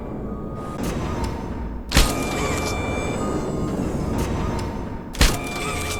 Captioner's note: gun fires; gun fires